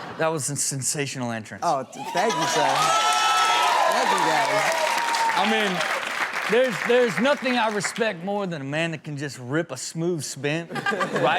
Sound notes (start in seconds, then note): 1.9 audience cheers